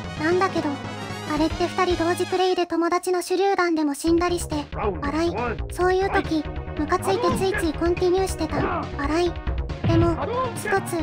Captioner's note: laughs